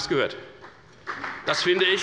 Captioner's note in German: Beifall bei der FDP